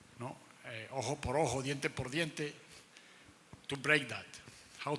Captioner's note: speaking in foreign language